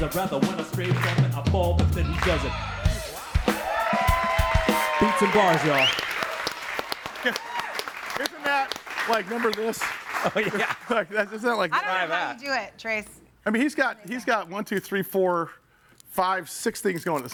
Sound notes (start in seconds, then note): 2.9 upbeat music; 3.9 audience applauds and cheers; 6.0 audience applauds and cheers